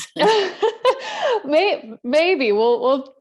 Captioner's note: laughter